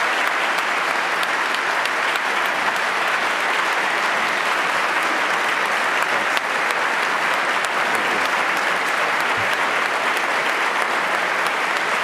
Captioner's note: applause